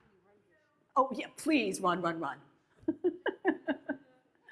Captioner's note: laughs